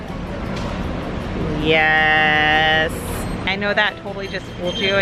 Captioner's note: monotone voice